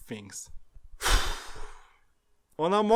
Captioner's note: sigh